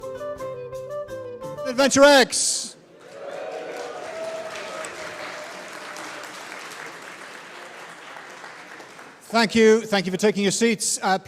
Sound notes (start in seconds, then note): 1.5 upbeat music; 2.9 audience applauding